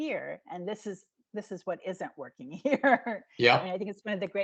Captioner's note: laughing